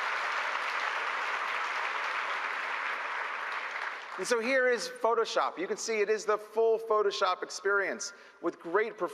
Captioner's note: applause